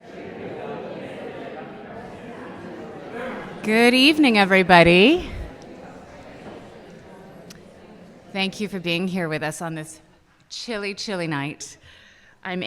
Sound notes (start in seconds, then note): 0.9 people chattering; 6.1 people chattering